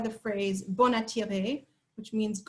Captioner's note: french